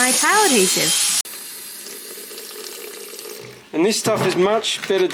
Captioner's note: tap runs with water